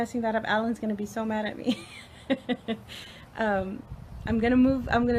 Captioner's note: laughs